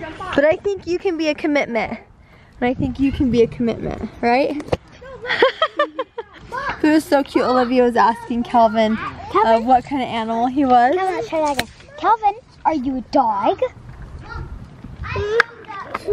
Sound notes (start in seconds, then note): 5.2 laughs